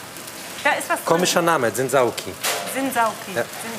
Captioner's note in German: none